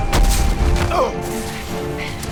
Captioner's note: grunting